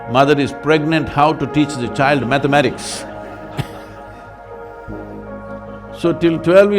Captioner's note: laughter